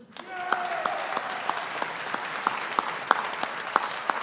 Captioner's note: audience applauding